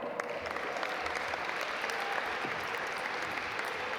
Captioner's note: audience applaud